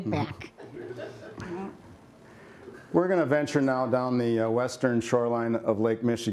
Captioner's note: laughter